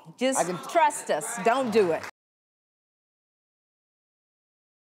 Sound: audience clapping

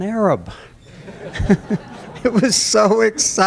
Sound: laughter

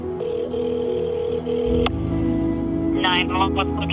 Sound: telephone ringing

